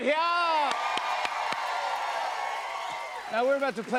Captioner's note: cheers and applause